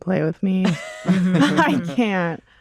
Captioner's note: laughter